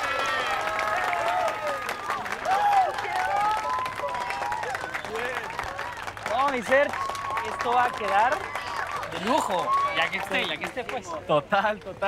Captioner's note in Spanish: Aplauden